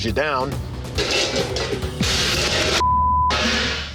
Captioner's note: dishes clattering